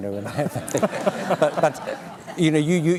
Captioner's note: laughter